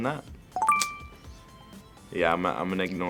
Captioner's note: ding